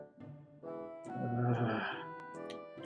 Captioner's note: audibly shudders